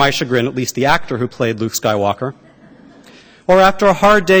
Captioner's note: laughter